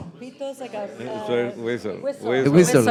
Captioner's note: speaking in Spanish